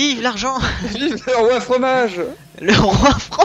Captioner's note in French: rires; rires